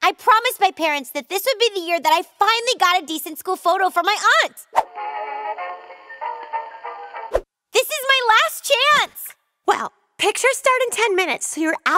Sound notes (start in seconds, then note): none